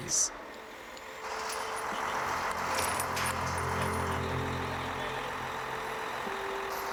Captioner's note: truck engine idles; chains clanking